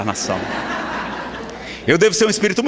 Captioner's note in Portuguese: risadas